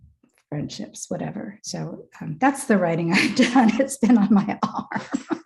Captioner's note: laughs